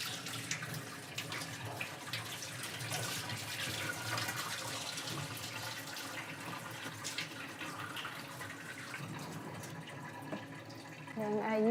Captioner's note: water flowing